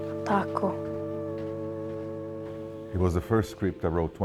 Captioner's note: speaking Italian